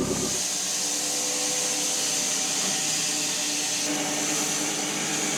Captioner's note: log thudding; woodcutting machine hissing